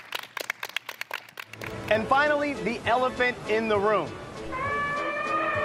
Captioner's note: applause